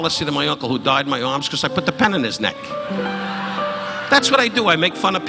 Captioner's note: audience laughing